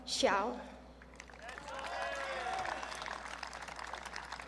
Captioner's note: audience cheering